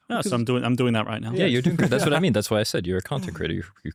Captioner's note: laughs